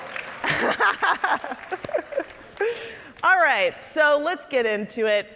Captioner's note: audience applauding; laughing